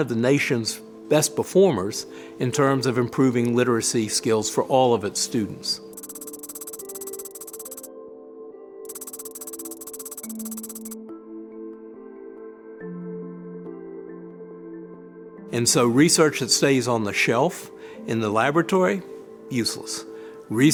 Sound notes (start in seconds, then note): 6.0 keyboard tapping; 6.0 soft music